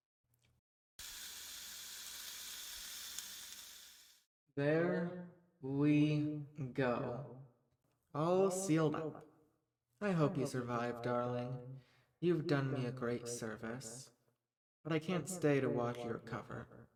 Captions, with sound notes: (flesh searing) There… we... go! All sealed up I hope you survive, darling. You have done me a great service. But I can’t stay to watch you recover